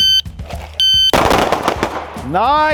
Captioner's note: electronic beeping; gun firing